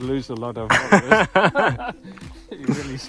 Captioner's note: laughter